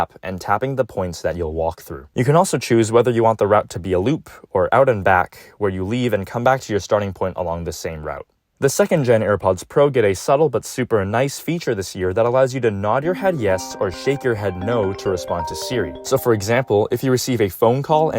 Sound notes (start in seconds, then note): 13.1 iPhone rings